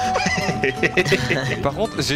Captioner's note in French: rires